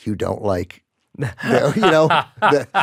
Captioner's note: laughs